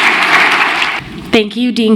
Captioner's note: applause